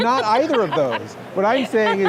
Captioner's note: laughing